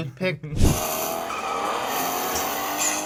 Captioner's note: roaring car engine; tires squealing